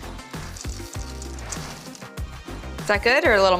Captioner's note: sprinkles dropping